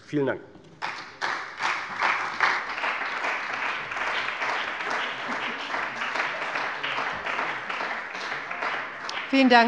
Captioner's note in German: Beifall bei der CDU und dem BÜNDNIS 90/DIE GRÜNEN